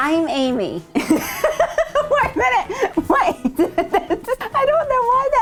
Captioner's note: laughing